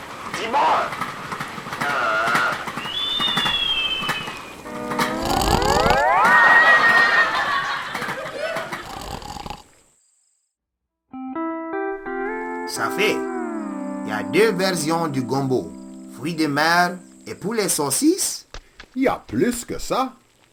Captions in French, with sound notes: Ti-Boy! (siffle) (ronfle) Ça fait, il y a 2 versions du gombo: fruits de mer et poulet-saucisse? Il y a plus que ça!